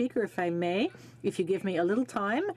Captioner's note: speaking French